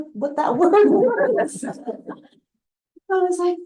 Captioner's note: laughter